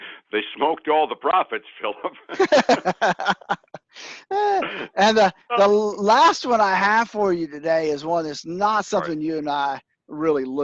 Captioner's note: laughs